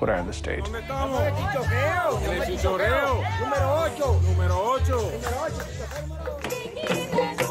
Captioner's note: crowd